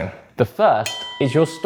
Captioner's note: bell dings